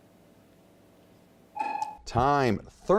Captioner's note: dinging